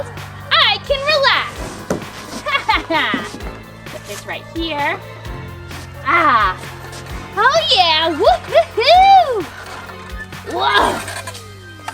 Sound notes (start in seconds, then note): 2.1 laughs; 8.5 exclaims